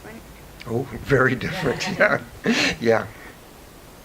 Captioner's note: laughs